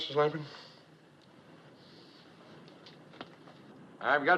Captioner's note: sniffs